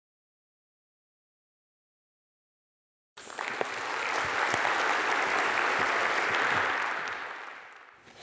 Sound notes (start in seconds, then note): 3.2 audience applauding